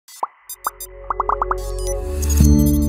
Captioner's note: bubbles popping; dynamic music